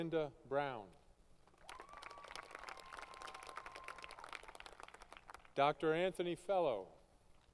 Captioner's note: applause; crowd Cheering & Applause